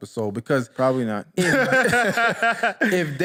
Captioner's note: laughter